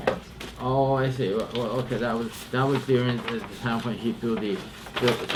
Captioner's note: papers rustling